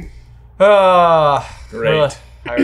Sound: sighing

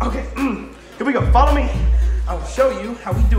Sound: clears throat

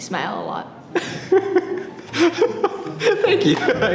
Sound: laughing

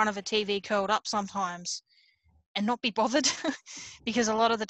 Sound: laughs

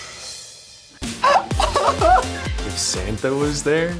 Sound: laughs

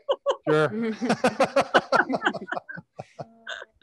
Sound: panelists laughing

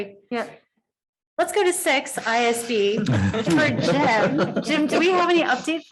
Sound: audience laughing

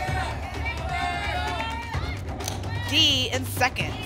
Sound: audience shouting letters

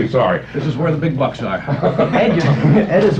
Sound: laughter

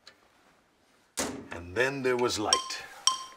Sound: clunks

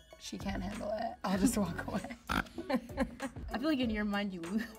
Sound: Rachel snorts

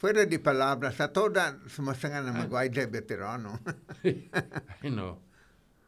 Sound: laughing

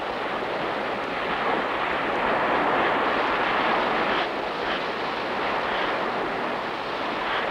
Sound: lapping waves

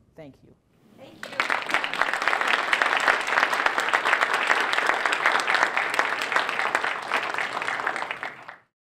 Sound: applause

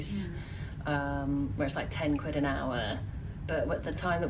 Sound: none

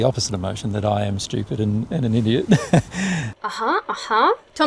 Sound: chuckles

